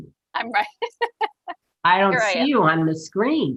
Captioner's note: laughing